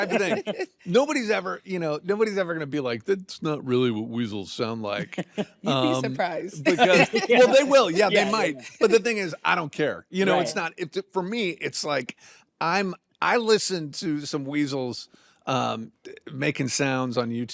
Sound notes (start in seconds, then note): 6.6 laughs